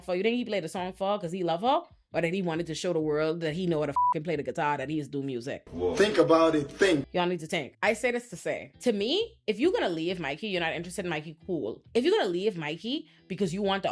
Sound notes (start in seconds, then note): 3.9 beep